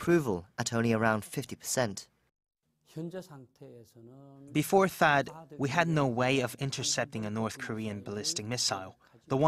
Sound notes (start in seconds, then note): 3.1 Korean